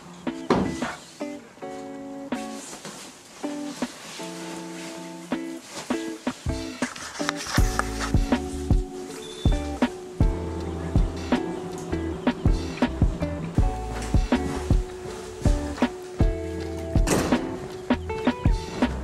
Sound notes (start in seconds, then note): 0.1 chill music; 3.7 fabric shifting; 9.8 chill music